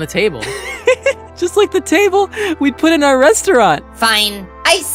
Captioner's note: laughs